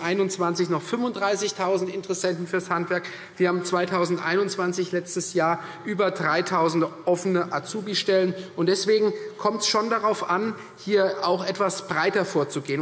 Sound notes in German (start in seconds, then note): none